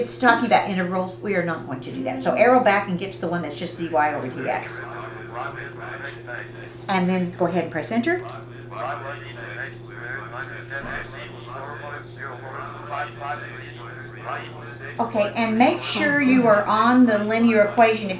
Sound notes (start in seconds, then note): 4.6 calculator voices; 8.1 calculator voices